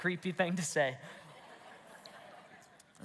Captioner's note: congregation laughs